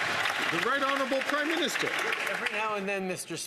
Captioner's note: some Applause